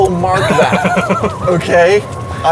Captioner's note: laughs